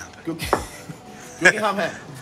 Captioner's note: laughter